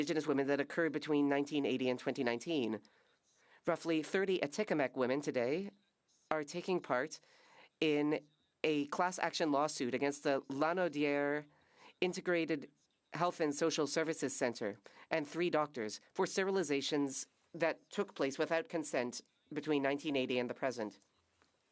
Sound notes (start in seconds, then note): 15.0 speaking French